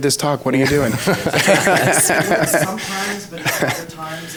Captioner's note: laughs